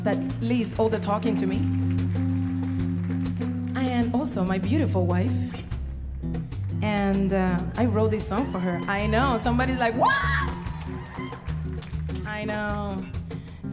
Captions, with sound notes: that leaves all the talking to me, (audience applauding) and also my beautiful wife. And I wrote this song for her. I know. Somebody's like, "What?" (audience cheering) I know.